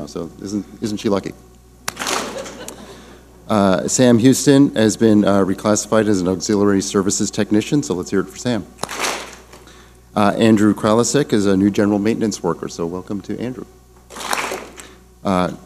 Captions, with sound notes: so, isn't she lucky? (clap smack) (audience laughing) Sam Houston has been reclassified as an Auxiliary Services Technician so let's hear it for Sam. (clap smack) Andrew Kreowski is a new General Maintenance worker so welcome to Andrew. (clap smack)